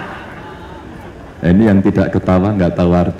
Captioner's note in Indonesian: tertawa